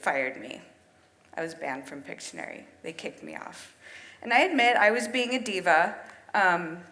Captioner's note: none